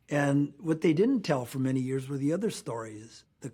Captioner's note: none